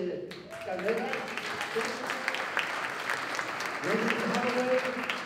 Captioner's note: applause; non-english speech